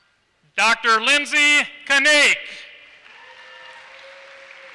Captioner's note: applause